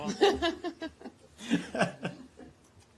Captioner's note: laughter